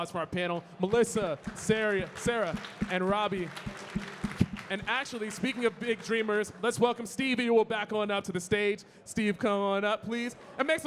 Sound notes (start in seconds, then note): 3.5 audience clapping